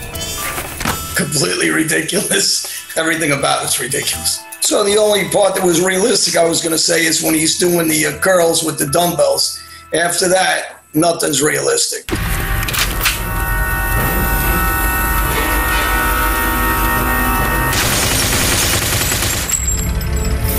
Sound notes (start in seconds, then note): 12.2 gun cocking; 14.1 eerie music; 17.6 gun shots